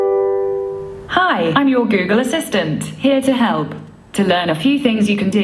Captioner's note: Google home sound